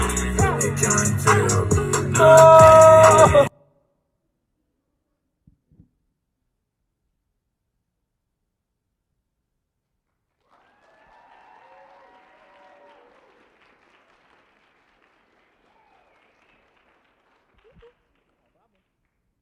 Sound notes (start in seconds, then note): 3.2 silence; 10.4 cheering and applause